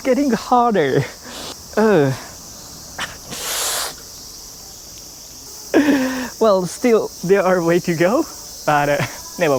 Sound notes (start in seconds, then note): 2.9 winces; 6.1 gasps